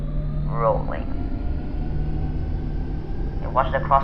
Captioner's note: engines accelerating